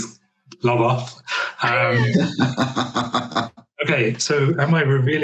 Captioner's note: all chuckles